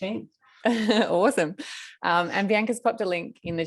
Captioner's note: laughter